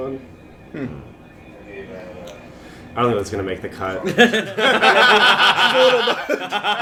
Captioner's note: laughter